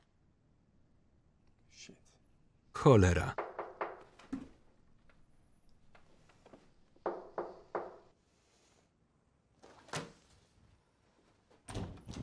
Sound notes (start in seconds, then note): 3.3 knocking on the door; 7.0 repeated knocking